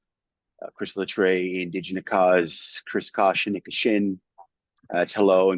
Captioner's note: speaking Michif